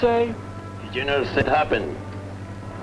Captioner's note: speaking spanish